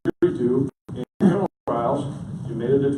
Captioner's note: audio cutting out